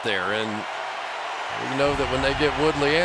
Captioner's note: cheering